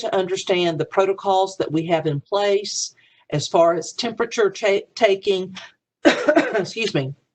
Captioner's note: cough